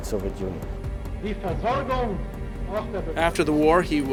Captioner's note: Rosenberg speaks German in witness stand